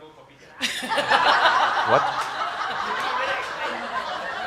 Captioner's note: laughter